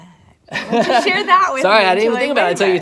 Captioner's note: laughing